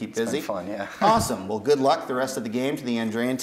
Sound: chuckles

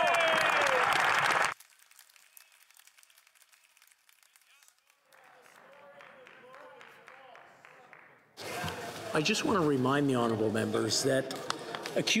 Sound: some Applause

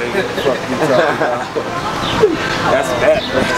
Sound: giggles

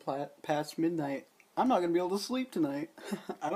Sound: haha

